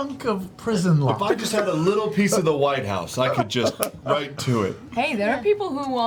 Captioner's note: snaps